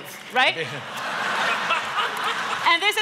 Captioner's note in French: Rires